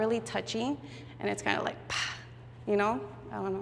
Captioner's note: exhales